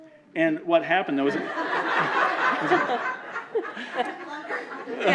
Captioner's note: laughter